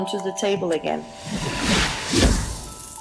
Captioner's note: landing sound